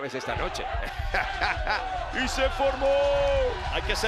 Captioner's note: laugh